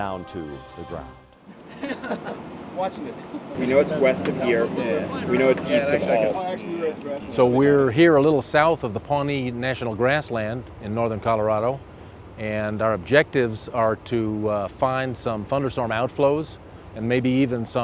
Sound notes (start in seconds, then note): 2.0 chatter